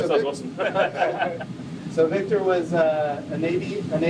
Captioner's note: lauger